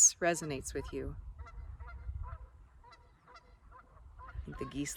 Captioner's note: geese honking